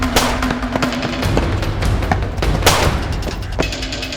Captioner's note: gun blasting